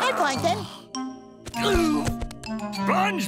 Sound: groaning

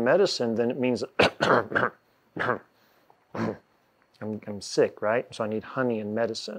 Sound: coughing

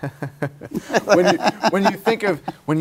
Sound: laughs

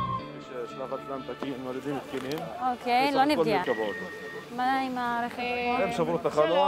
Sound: medics speak foreign language

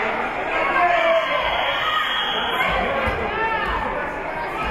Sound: whistle being blown

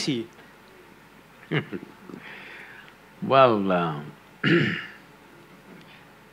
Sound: laughs

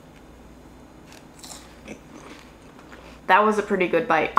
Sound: food crunching

